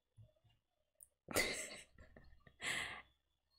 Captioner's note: laughs